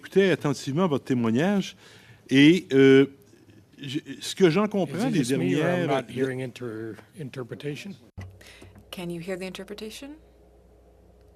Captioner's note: speaking French